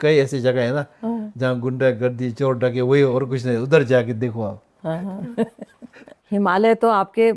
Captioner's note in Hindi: हंसी